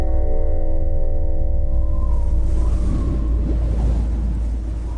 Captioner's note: eerie wind blows